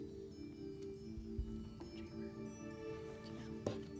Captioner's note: whispering